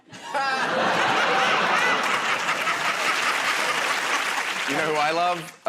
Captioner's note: laughter